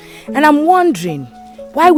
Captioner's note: none